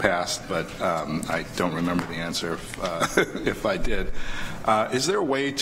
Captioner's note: chuckles